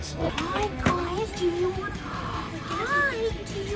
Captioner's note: gasps